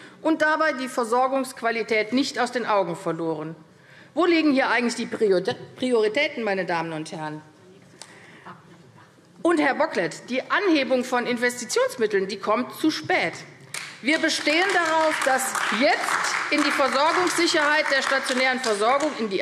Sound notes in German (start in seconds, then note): 13.7 Beifall AfD